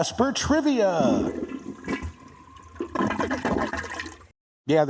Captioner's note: toilet heard flushing